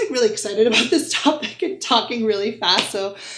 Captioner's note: giggles